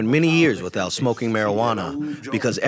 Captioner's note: through translator